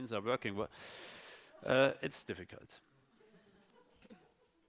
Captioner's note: sighs